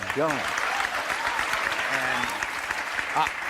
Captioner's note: audience applauding